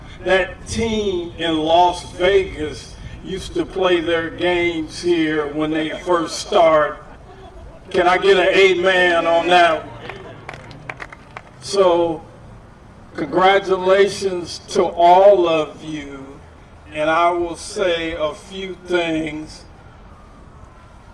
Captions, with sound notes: That team in Las Vegas used to play their games here when they first started. Can I get an amen on that one. [APPLAUSE] So congratulations to all of you. And I will say a few things.